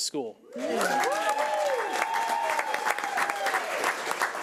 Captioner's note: crowd applauding